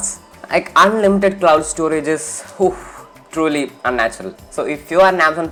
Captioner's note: exhales